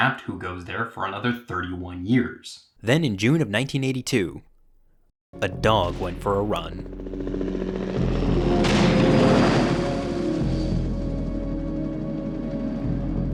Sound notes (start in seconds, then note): 7.1 helicopter rumbling; 10.3 suspenseful music